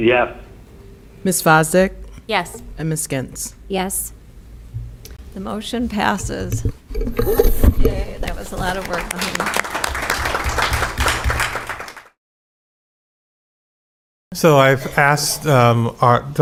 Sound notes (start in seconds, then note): 8.2 applause